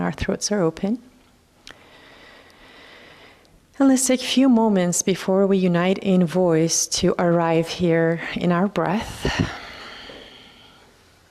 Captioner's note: sighs